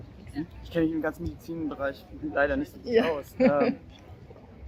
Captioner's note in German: lacht